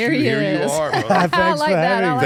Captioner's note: laugh